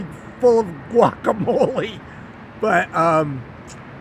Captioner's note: laughing